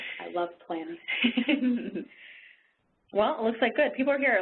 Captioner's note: laughing